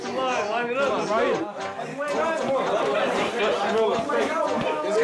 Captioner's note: team chatters; upbeat music